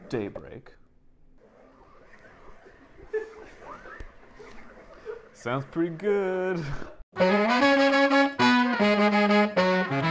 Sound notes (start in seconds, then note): 6.1 background laughter; 7.2 lively Music